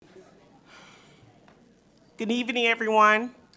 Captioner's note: people chattering faintly